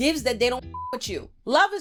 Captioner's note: beep